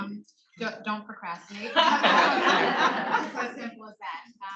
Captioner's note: attendees laughing